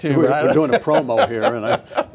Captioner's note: laughing